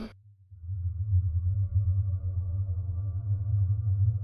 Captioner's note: hummmm